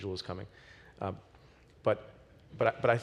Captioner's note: none